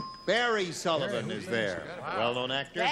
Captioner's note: ding